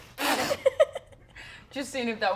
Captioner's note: laughs